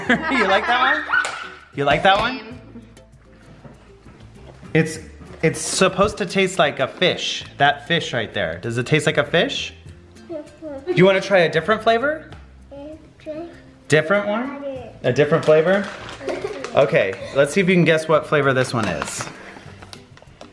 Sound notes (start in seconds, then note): 0.0 laughs; 16.2 boys laugh